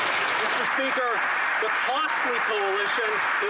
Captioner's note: applause